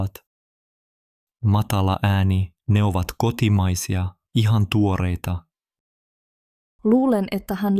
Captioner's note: low voice